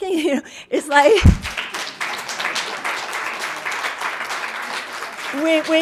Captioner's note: audience applauding